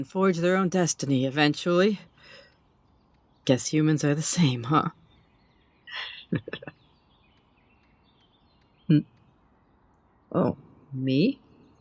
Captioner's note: chuckles